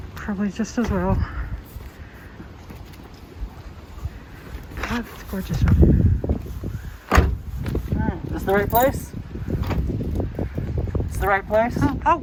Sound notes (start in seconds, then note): 1.9 wind whooshing; 7.0 car door slams; 7.3 wind whooshing; 9.6 car door slams; 9.6 wind whooshing